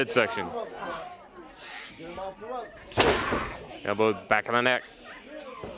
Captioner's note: crowd chatter